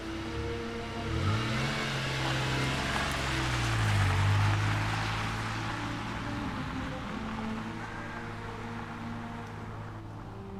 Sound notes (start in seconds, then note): 0.8 engine roaring